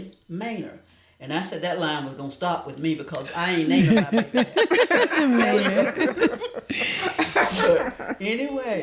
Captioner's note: laughter